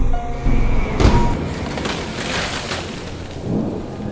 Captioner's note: thunder strike, tree cracking